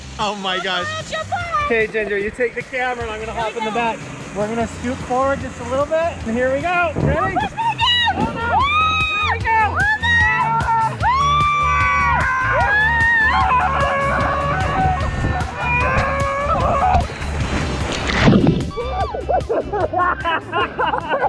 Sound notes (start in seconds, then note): 11.0 both screaming; 18.8 both laughing